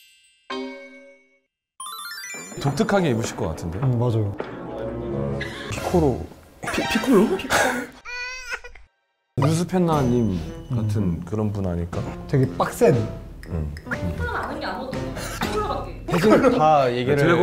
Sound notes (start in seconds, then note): 8.0 tears